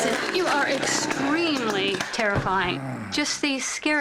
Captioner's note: growling sounds